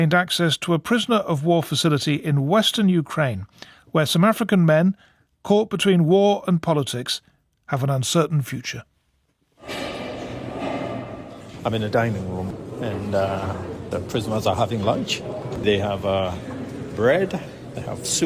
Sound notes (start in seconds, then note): 9.6 metal clanging